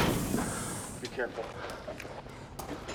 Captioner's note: door hisses and clatters